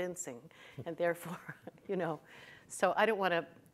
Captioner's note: chuckles